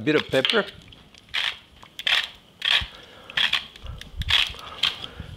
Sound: grinder clicks

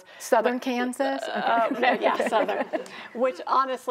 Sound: and crowd chuckling

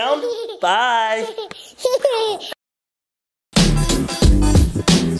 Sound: child laughing; downtempo electronic music

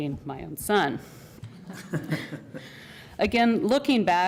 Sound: laughter

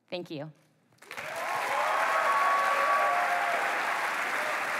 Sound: applause

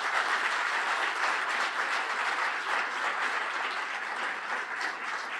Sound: applause

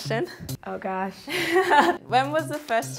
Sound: laughter

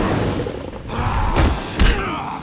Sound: grunting

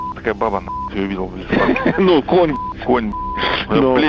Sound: laughs

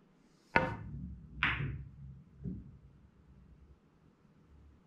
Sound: pool balls tapping

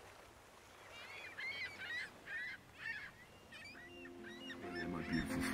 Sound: birds chipping

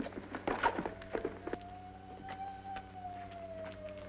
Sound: sirens

